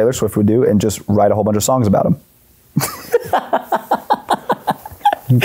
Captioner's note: laughs